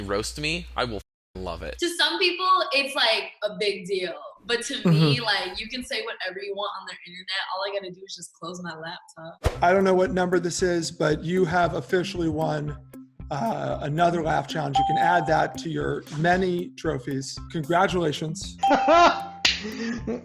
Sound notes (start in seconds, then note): 14.7 ding; 18.8 laughs and claps